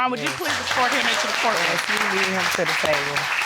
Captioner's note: audience claps